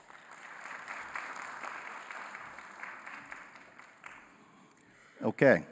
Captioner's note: applause